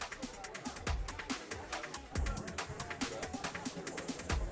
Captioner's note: people chattering